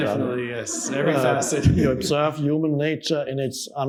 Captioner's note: chuckles